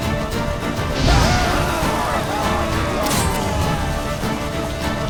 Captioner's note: flames whoosh; scream